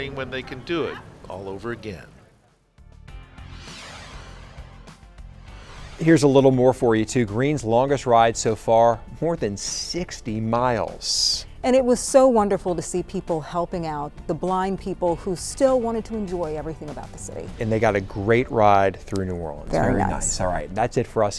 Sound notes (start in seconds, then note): 3.3 air whooshing; 3.3 mellow music